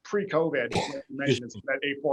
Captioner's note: coughing